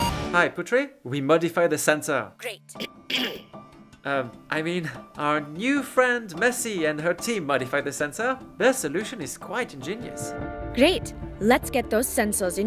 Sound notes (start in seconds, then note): 3.0 ahem